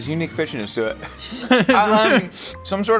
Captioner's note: laughing